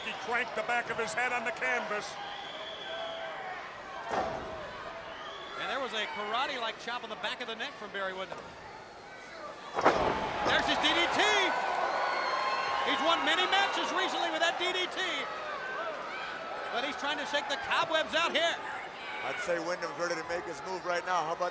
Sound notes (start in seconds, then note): 4.1 ring thuds; 9.7 ring thuds